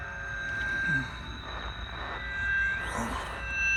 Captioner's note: groaning